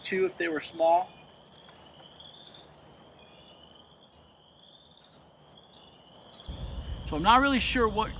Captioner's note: frog and bird calls in background